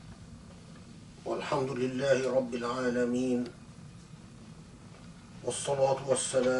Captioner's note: in Arabic